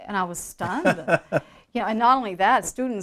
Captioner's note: chuckles